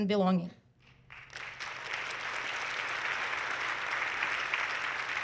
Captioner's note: audience clapping